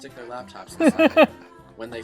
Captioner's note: laughing